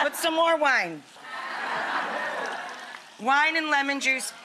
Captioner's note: audience laughing